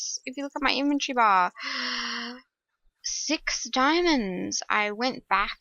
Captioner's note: gasp!